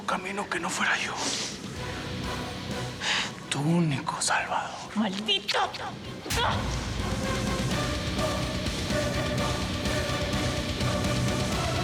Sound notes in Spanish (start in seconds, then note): 6.4 bofetada